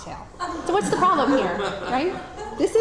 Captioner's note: audience laughs